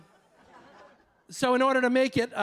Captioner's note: audience laughing